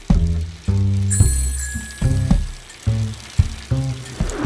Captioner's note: bike bell rings